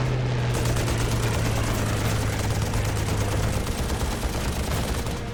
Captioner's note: gunfire